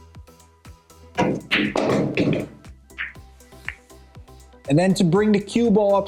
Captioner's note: pool balls clacking and thudding